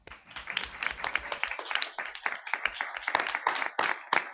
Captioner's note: people clapping